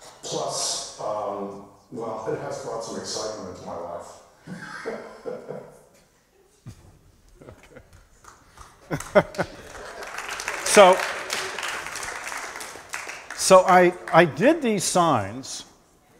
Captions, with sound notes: Plus, well, it has brought some excitement into my life. [ Applause ] So I did these signs--